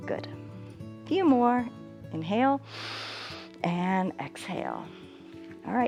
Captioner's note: inhales